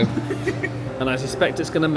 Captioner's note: laughs